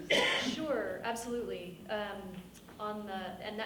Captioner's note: woman coughs